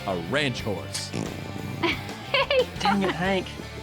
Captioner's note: horse passes gas, laughs